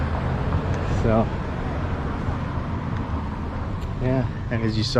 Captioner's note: street noise